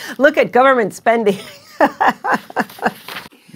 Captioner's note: laughing